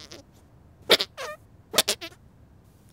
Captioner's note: knee squeaking